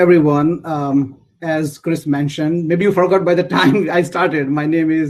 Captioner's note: laugh